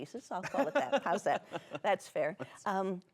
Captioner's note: laughing